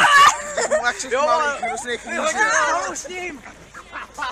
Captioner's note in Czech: hlasy